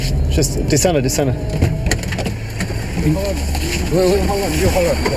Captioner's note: speaking in foreign language